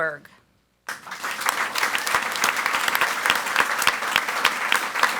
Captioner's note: audience applauds